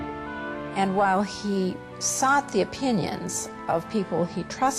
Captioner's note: voiceover